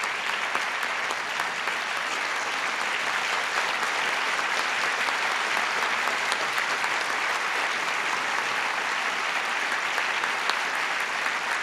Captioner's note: applause